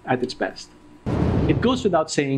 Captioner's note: whooshing